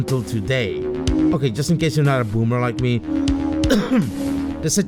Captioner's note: ahem